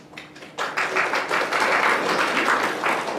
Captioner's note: applause